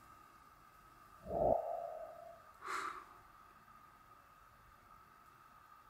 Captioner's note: exhale